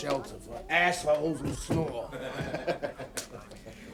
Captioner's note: laughter